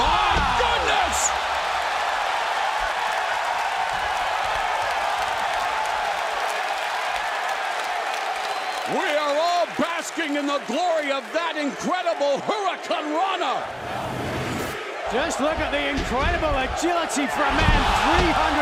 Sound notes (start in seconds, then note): 2.4 crowd cheering